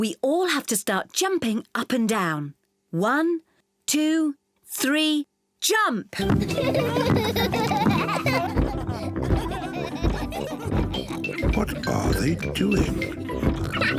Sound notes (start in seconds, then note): 6.2 kids giggling; 8.5 giggling continues; 8.5 thumping